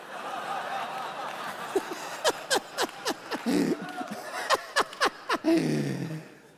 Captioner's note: congregation laughing; laughing